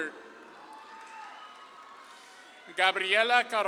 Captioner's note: audience claps and cheers